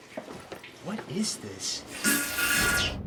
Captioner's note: farting